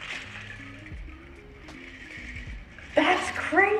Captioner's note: ice rattling